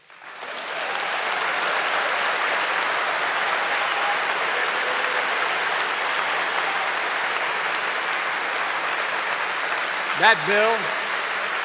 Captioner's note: applause